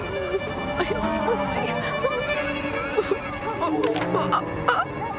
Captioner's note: wind Whistling; whimpering